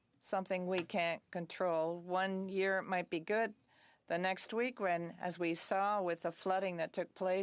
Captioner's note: speaking French